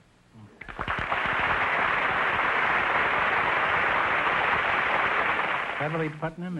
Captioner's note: applause